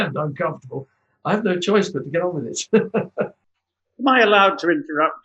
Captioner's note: laughs